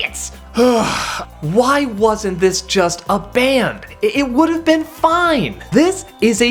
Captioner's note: deep sigh